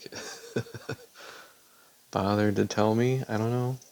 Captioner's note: chuckles in pure disbelief